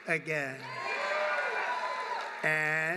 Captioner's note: applause